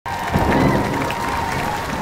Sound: audience cheering; thunder claps

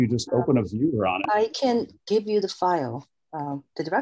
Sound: soft Voice

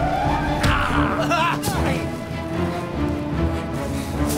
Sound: grunting; tense instrumental music

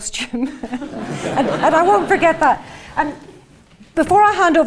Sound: laugh

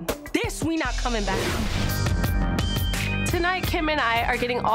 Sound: logo whooshing

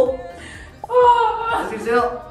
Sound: sounds of dying

